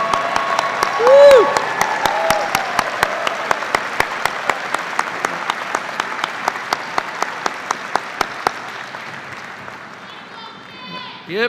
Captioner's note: cheers and applause